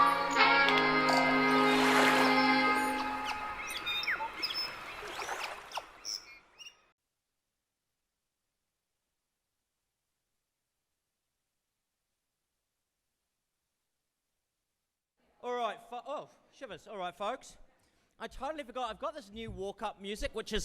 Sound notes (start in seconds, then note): 1.5 birds chirping